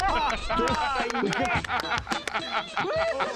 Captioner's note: clapping; laughter